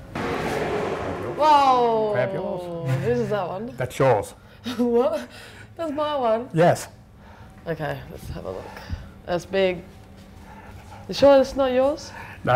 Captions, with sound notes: Oh. - Grab yours. - Who's is that one? - That's yours. - (giggling) What? That's my one? - Yes. - Okay, let's have a look. That's big. You sure this is not yours?